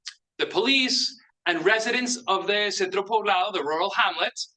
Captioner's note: speaks in Spanish